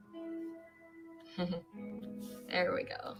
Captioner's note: chuckles